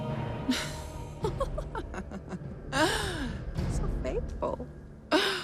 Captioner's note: laughs